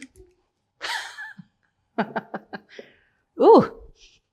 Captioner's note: laughs